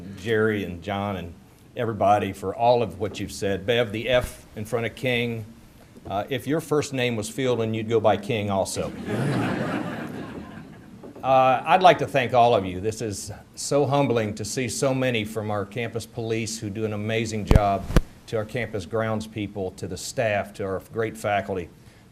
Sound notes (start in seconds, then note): 8.8 audience laughter